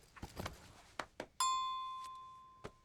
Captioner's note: phone dings